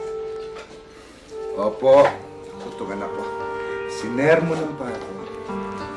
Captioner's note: sighs